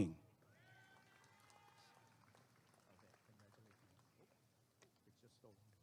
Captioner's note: applause and cheering